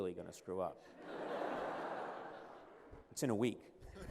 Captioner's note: laughter